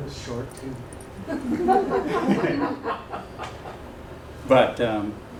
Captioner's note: laughter